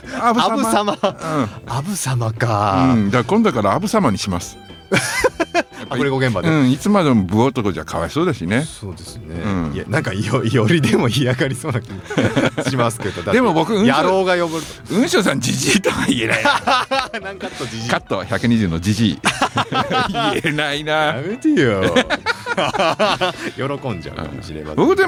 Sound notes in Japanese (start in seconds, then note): 4.9 笑い; 10.4 笑い; 14.9 笑い; 21.8 笑い